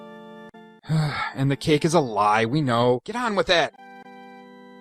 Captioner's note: sighs